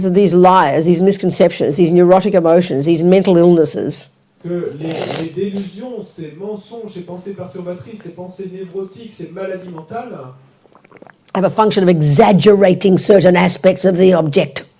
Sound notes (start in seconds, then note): 4.1 French